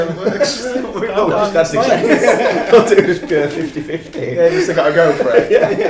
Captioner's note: laughing